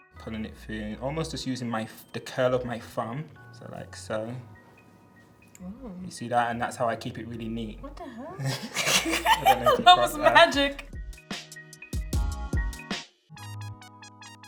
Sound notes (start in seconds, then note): 0.0 soft techno music; 8.4 both chuckling; 10.8 slow hip-hop music